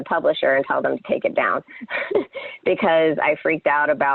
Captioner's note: laughs